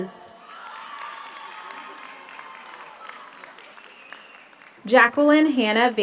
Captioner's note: audience cheers; audience applauds